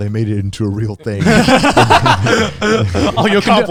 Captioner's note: everyone laughs